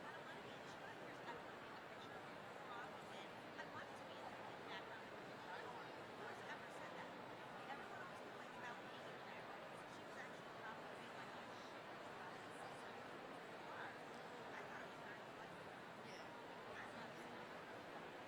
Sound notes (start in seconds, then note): 10.6 people chattering